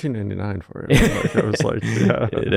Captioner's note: laughing